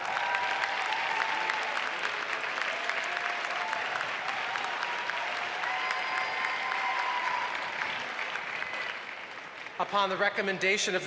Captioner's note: applause